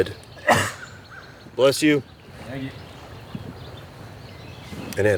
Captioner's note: off-screen sneeze